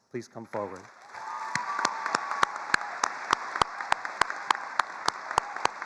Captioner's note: attendees applauding